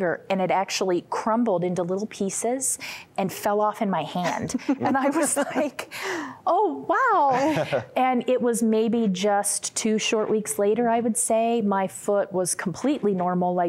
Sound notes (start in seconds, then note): 4.2 giggling